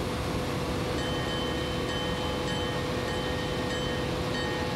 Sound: bell ringing

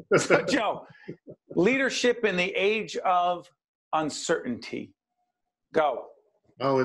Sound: laughing

